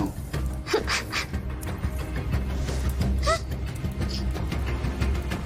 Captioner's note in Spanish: Sollozos